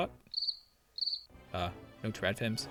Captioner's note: cricket chirp